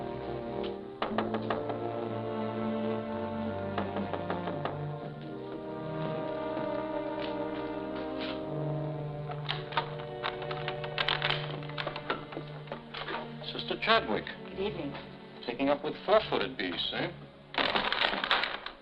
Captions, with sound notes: [knocking on door] - Sister Chadwick. - Good evening. Taking up with four-footed beasts, eh?